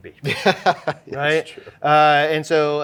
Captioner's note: laughing